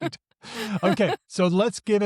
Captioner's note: chuckles; laughs